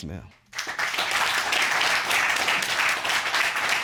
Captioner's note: applause